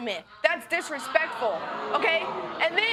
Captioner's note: audience exclaiming